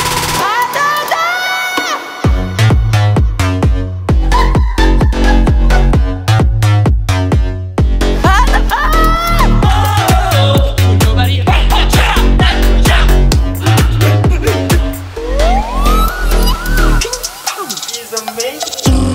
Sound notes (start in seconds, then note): 4.2 laugh